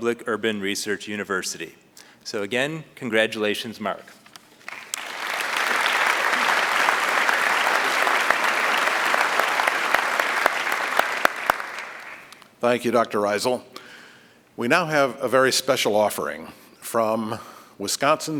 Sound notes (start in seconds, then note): 7.8 applause